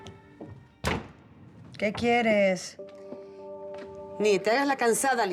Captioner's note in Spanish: ruido de la puerta